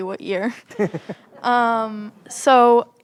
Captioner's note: chuckles